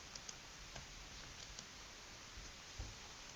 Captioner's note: keyboard clicking